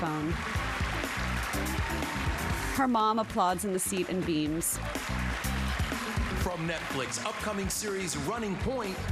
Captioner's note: cheers and applause